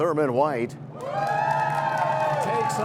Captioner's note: cheers and applause